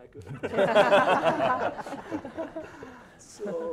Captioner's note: laughing